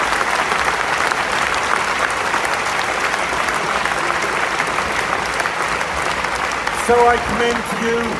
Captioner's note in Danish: Bifald